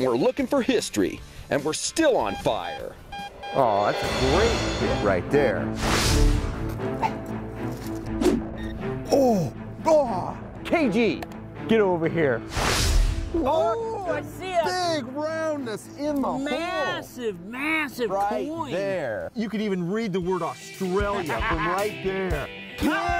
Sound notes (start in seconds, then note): 2.2 beeping; 6.1 suspenseful music